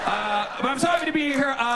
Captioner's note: audience laughs